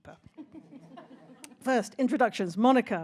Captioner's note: audience laughs